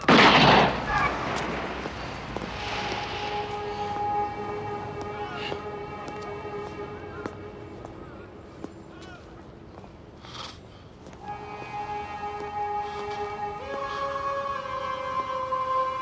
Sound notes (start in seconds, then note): 0.0 gunshot